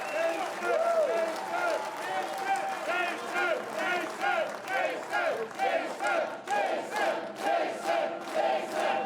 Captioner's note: cheers and Applause